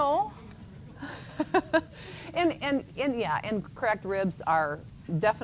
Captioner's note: chuckles